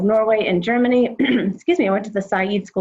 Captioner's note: clears throat